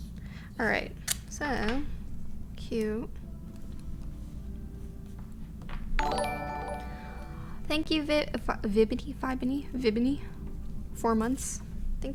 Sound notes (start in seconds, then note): 6.0 notification tingling